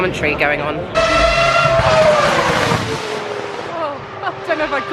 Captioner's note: car squeal past loudly